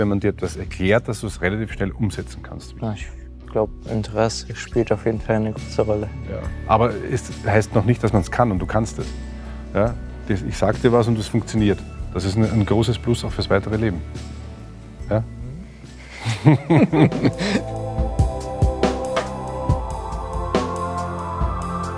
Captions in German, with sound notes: Wenn man dir was erklärt, kannst du es schnell umsetzen. Das Interesse spielt eine große Rolle. Es heißt nicht, dass man es kann. Aber du kannst es. Ich sage dir was und das funktioniert. Das ist ein großes Plus auch fürs Leben. *Alle lachen.* *langsame Musik*